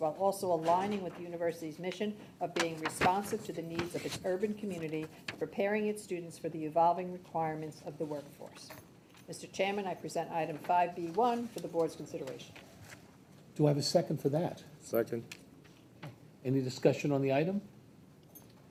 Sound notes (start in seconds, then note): none